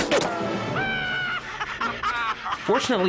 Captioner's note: maniacal laughter